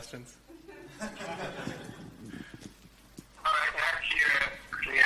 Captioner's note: laughter